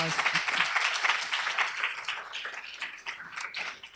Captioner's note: applause